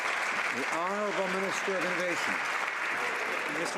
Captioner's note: some Applause